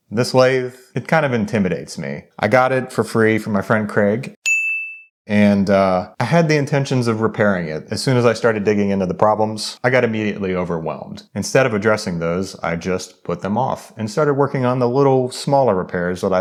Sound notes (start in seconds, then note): 4.4 screen chiming